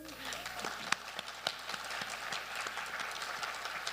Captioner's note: audience clapping